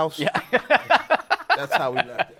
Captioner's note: laughter